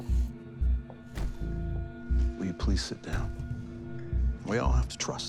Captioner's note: none